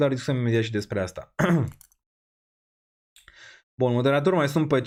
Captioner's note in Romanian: voce dreasă